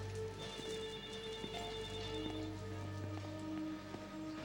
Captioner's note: phone rings